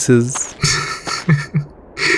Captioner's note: Smoke chuckles